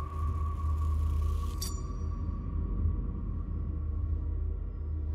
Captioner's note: blade scrapes